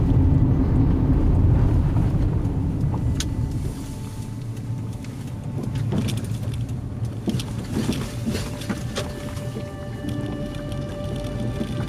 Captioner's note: car Sound